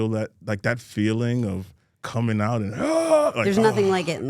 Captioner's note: shouting